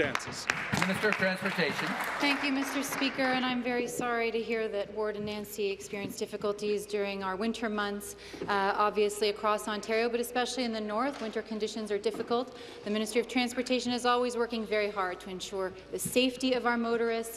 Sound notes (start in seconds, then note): 3.8 applause